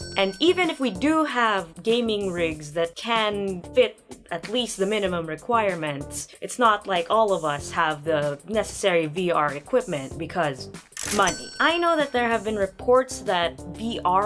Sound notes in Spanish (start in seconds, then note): 11.0 Sonido de caja registradora